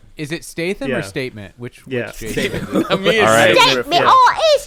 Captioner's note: cockney voice